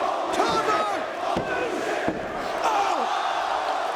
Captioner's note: hand pounding; crowd exclaiming